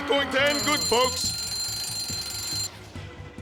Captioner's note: alarm going off